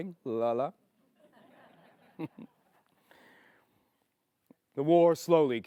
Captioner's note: chuckles